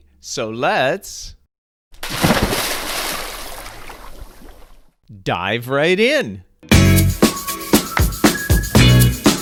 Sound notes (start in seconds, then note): 2.0 water splashing; 6.6 upbeat music